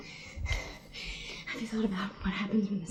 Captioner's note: breathing heavily